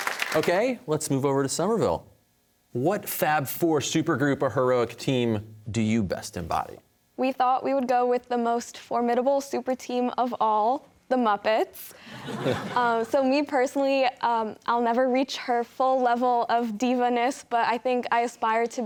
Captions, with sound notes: Okay, let's move over to Somerville. What fab four, supergroup, or heroic team do you best embody? >> We thought we would go with the most formidable superteam of all, the Muppets. (audience laughter) So me, personally, I'll never reach her full level of divaness, but I think I aspire to be